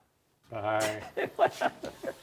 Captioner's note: laughing